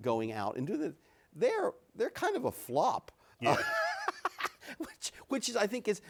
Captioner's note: laughs